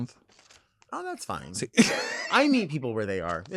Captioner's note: laughing